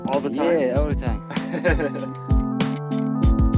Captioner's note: laughter